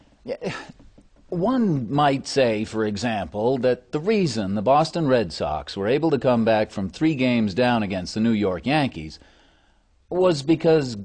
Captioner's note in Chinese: 眾笑